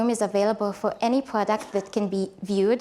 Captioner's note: group member coughs